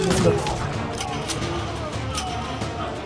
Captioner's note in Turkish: Silah sesleri; İnleme sesleri; Silah mekanizma sesi